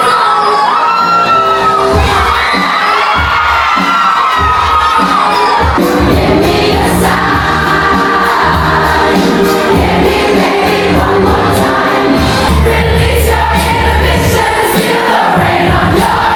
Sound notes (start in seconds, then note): 0.2 crowd Cheering; 0.2 upbeat Music; 4.5 crowd Cheering; 4.5 upbeat Music